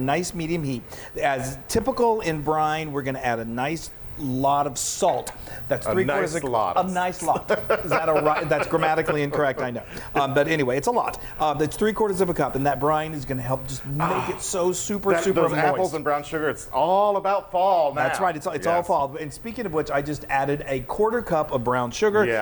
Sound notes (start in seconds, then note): 5.6 laughing